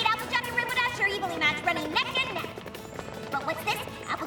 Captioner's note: none